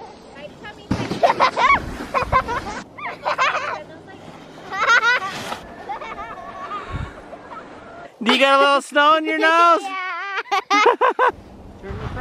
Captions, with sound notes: (laughing) Do you got a little snow in your nose? - Yeah! (laughing)